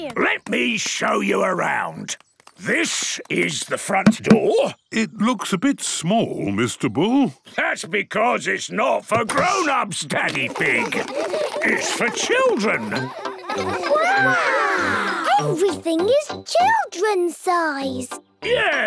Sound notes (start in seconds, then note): 10.2 children laughing